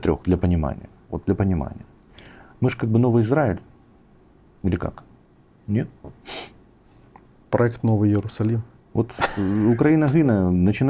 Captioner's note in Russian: фыркает